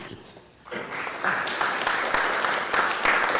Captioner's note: applause